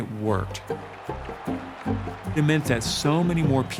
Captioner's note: cheers and applause